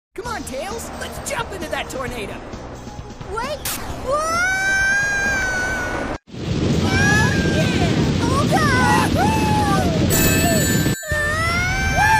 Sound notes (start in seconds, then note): 8.5 shouts of Amusement; 8.7 yelling in Fear